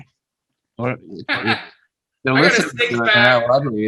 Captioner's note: laughing